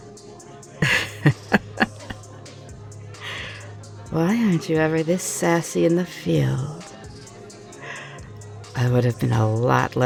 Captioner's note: laughing